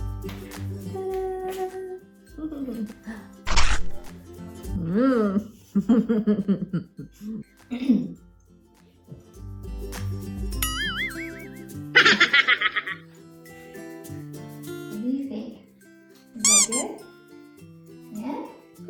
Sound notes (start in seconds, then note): 3.5 soft chuckle, apple bite; 5.6 chuckling; 7.4 guitar strings; 7.4 chipmunk laughing; 7.4 clearing throat